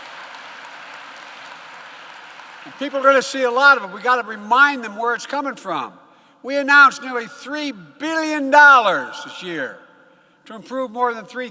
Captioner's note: applause